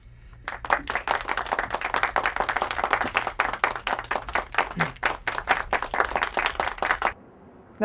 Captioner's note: audience applause